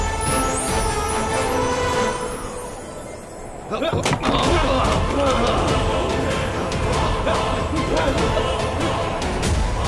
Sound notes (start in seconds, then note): 2.4 thieves grunting